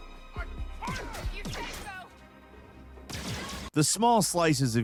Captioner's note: gun firing